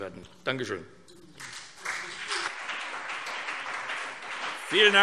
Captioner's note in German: Beifall CDU und BÜNDNIS 90/DIE GRÜNEN